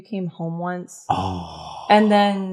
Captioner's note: sigh from the pit of soul